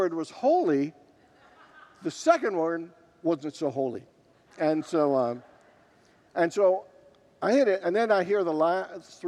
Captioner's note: congregants laugh